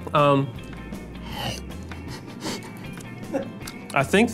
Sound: gags

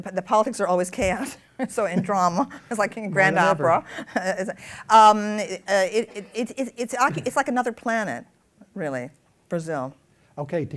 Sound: laughs

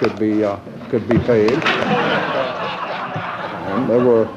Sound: laughter

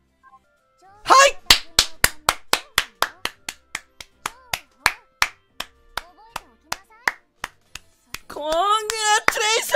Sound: claps

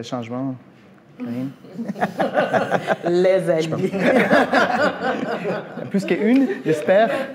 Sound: laughs

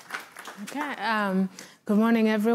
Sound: applause

